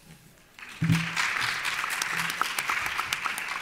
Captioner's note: applauding